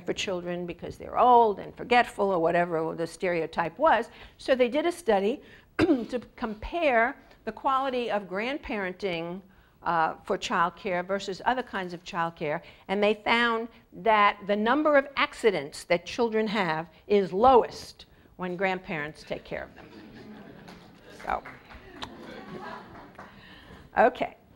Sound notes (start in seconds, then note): 5.8 cough; 19.7 laugh